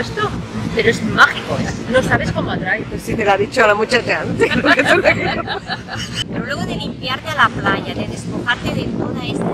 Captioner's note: laughs